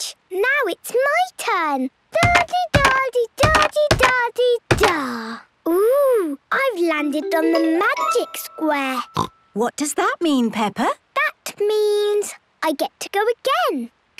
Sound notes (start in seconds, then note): 1.7 thudding; 9.0 snorts